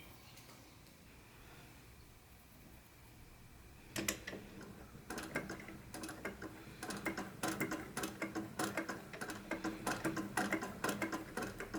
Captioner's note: noisy machine time